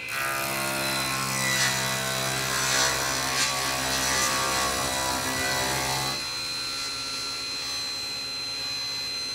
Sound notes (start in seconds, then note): 0.5 saw buzzing